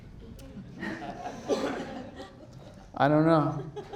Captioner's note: audience laughs